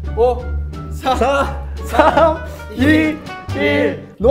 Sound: counting down

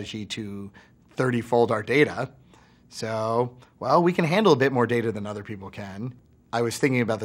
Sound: none

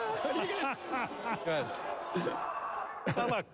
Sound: booing

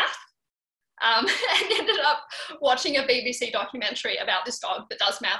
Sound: chuckling

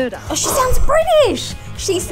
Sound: gasps

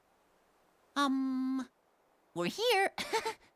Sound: slight chuckle

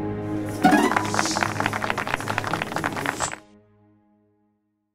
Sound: applause

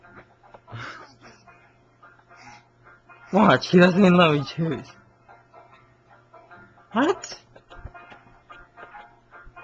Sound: throws up

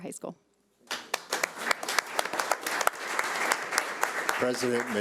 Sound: audience clapping

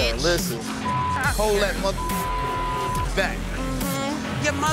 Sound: beep sound

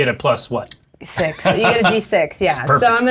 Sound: laughing

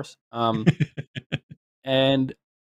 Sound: laughs

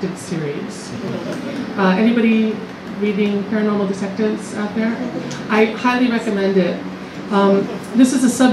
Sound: laughs

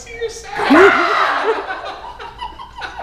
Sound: scream

